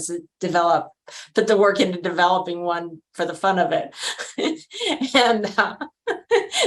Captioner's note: laughs